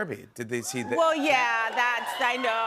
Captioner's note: audience cheers